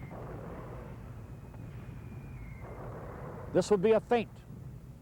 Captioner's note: mortar fire booming